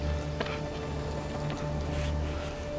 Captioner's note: shivering